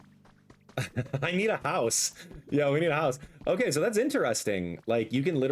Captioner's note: laughs